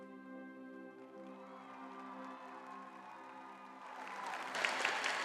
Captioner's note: audience applauding